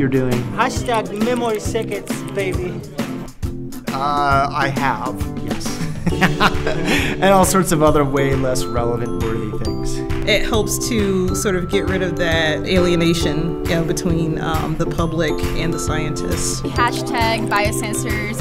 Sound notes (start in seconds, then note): 5.7 laughter